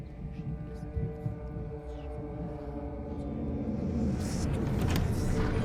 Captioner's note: disembodied whispers; cheery, Western music; door creaks; dramatic, foreboding music